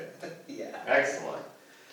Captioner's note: laughs